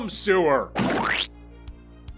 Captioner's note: vulgar sound effect